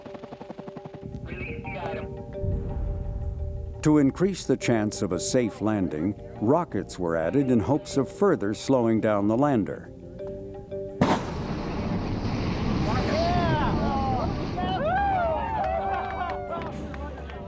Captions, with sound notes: >> Release the item. >> To increase the chance of a safe landing, rockets were added in hopes of further slowing down the lander. [small rockets fire] [cheering]